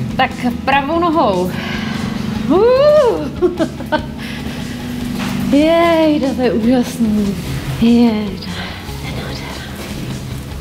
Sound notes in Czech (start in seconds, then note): 3.2 spokojený smích